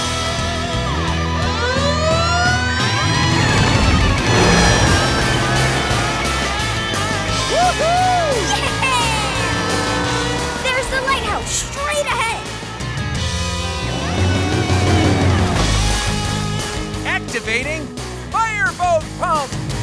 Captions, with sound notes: [sirens wailing] -Woo hoo! -Yeah! There's the lighthouse straight ahead! Activating fireboat pump!